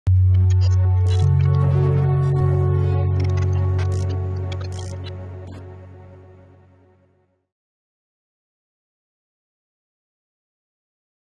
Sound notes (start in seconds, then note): 0.1 dramatic music; 4.1 static buzzing